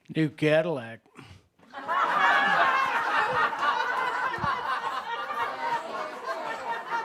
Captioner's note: lots of laughter